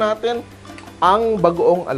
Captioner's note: sizzle